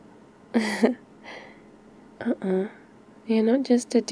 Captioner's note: laughs